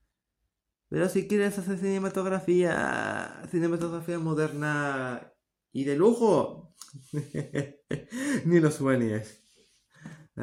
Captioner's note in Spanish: risa de millonario